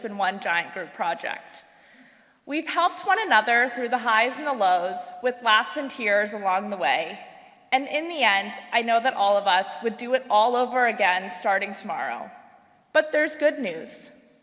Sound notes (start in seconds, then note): none